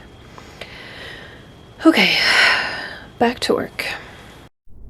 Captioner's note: deep breath